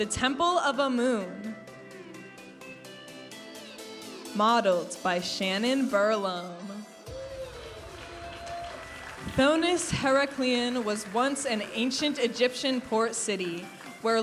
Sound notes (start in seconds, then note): 0.0 vibrant music; 2.2 vibrant music; 7.0 audience applauding and cheering; 8.8 vibrant music